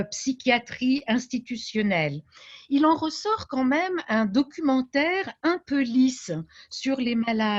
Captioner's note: speaking French